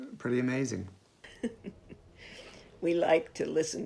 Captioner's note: chuckles